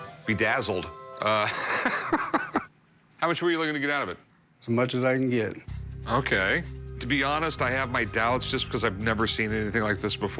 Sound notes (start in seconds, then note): 1.3 laughs